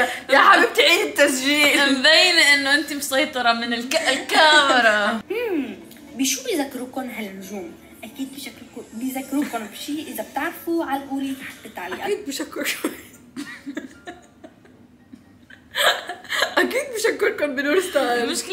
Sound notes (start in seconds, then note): 15.4 laughing